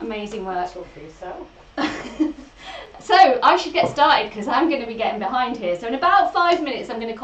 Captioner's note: laughs